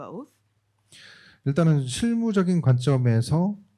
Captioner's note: speaking korean